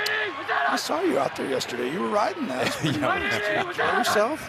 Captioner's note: both laughing